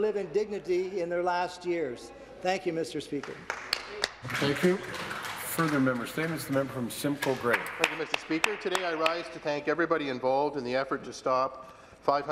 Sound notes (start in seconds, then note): 6.2 some Applause